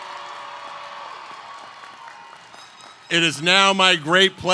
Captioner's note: cheers